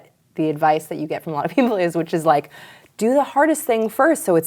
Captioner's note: laughs